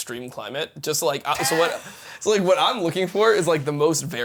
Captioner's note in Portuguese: risos